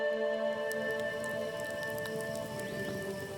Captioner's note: fire crackling